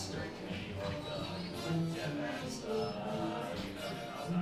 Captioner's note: patrons chattering